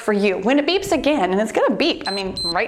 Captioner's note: timer beeps